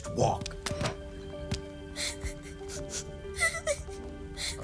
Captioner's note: Nom receives the large wok and starts a sniffling and tearing up